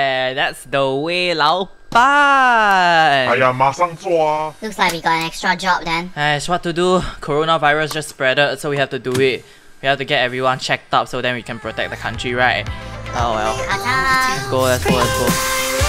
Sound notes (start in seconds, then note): 6.3 korean sighs